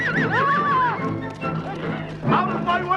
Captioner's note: Hundra shouts